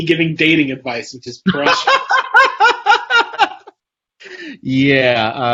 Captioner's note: laughs